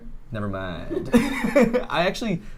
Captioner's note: laughs